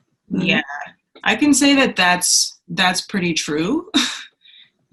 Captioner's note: laughs